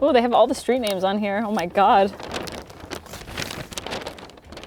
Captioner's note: rustling paper